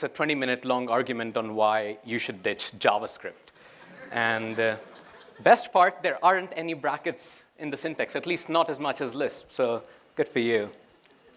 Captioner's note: laughter